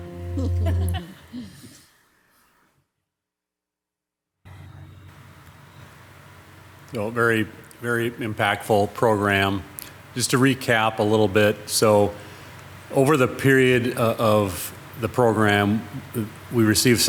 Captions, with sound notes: (council members chuckling) - A very, very impactful program. Just to recap a little bit. So over the period of the program, we received 650,